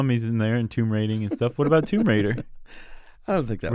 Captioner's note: laughs